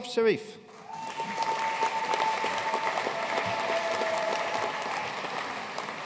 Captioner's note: audience cheering and applauding